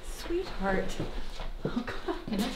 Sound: footsteps thudding

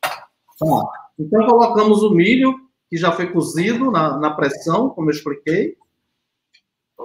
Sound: speaks portuguese

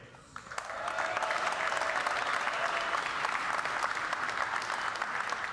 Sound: audience cheering and applauding

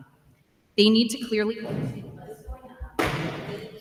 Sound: speaking off mic

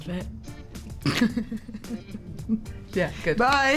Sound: Emma laughs

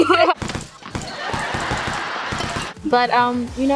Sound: chuckle; balls bouncing

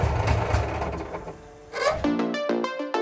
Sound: engine dying; gentle electronic music

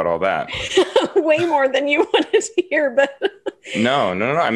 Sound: laughs

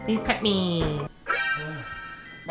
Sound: exclamation point sound effect

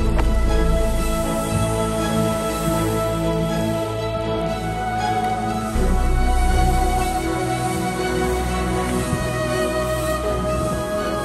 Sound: sound sled sliding

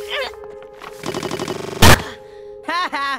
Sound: Luz crashes, looped and distorted

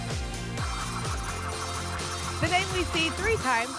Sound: spinning sounds

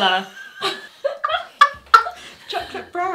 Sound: both laugh

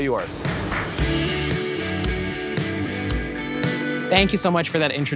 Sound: upbeat music; transition whooshes

